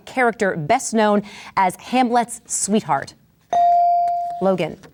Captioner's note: bell dings